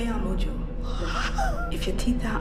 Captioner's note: girl exclaims